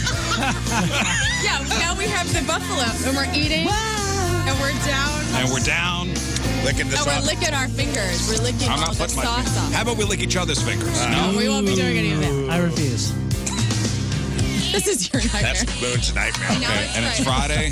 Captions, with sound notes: (Laughing) Yeah, now we have the buffalo. And we're eating. And we're down. And we're down licking this up. And we're licking our fingers. We're licking all the sauce off. How about we lick each other's fingers? No, we won't be doing any of it. I refuse. This is your nightmare. That's food's nightmare. And it's Friday.